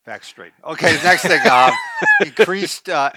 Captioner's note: laughing